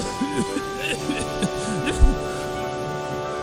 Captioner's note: Thomas coughing